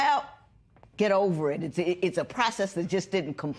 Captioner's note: none